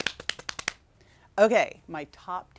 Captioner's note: hands slapping